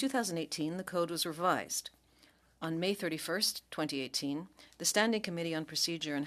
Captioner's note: speaking French